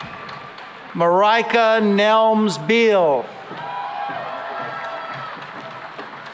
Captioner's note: cheering and applause